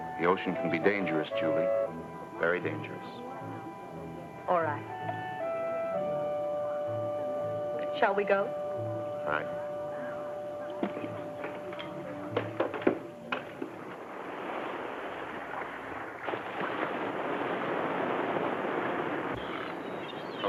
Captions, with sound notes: The ocean can be dangerous, Julie, very dangerous. - All right. Shall we go? - All right. (waves crash)